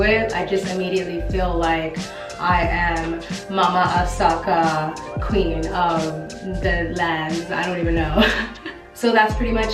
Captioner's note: laughs